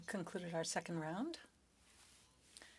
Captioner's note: speaking French